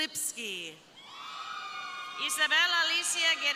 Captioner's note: crowd cheering